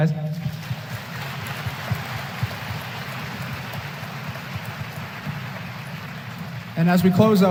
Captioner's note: applause